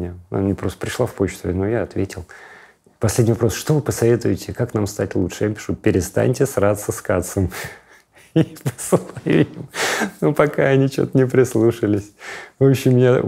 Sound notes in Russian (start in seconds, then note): 8.2 смеясь